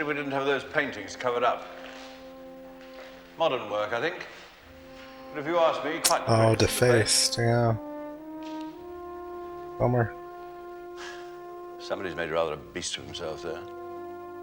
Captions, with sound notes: [Tsk] Oh, defaced. Yeah. Bummer.